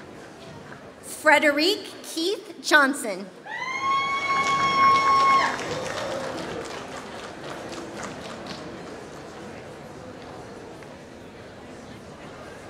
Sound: applause

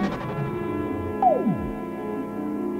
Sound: blip

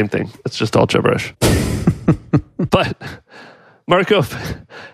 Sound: laughs

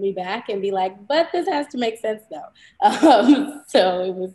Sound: laughs

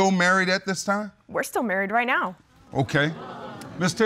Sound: audience groans

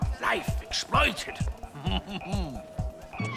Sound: chuckles

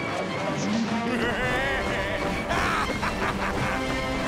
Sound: laughing

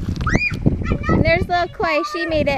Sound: child screams

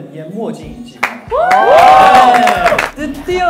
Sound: applauding for now

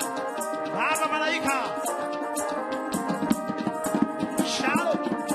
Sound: man speaking in language other than English

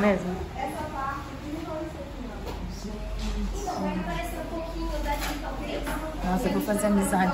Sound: indistinct chatter in the background

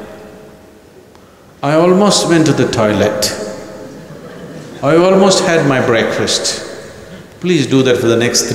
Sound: laughter

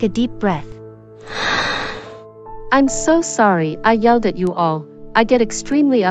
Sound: sigh

